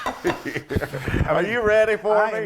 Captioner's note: laugh